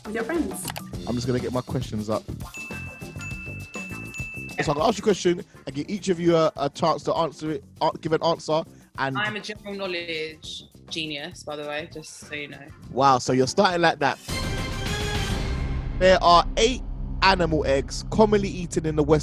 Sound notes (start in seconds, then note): 2.4 bell rings; 14.2 dramatic orchestral music